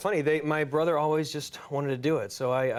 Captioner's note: none